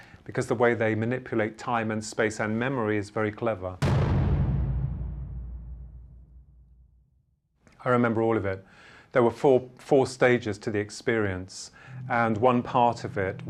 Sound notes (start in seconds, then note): 3.8 object thuds